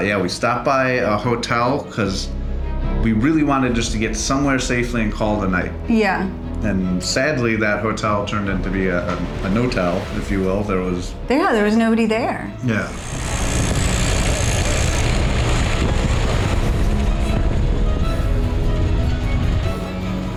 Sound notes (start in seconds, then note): 13.0 motorcycle rattles